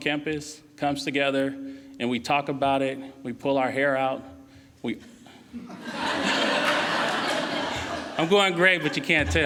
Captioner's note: laughing